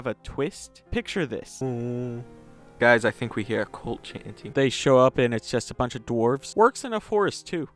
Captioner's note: crappy narrator chant